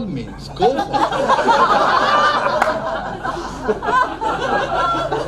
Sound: crowd laughs

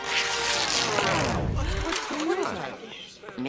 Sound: big rip; crowd mumbling

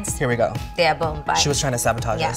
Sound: speaking in Spanish

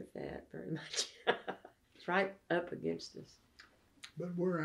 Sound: laughs

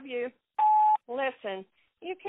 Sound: phone beeps

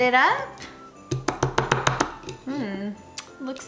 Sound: lid tapping on cup

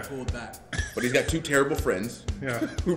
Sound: laugh

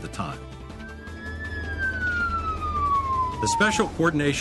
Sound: police Siren

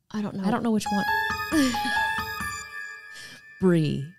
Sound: eerie sound

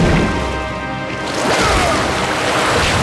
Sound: grunting

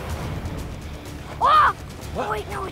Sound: scream

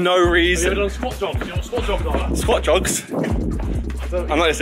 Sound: both mumbling

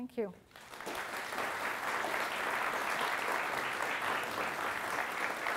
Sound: applause

